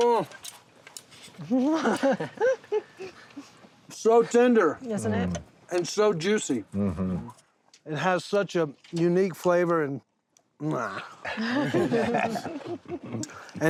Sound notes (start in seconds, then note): 1.4 everyone laughing; 10.5 chewing noisily; 11.3 everyone laughing